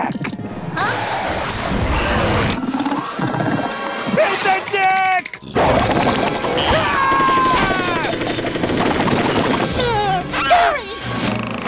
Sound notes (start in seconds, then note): 6.5 screaming; 8.9 meowing